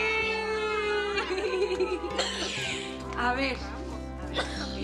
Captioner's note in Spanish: Risas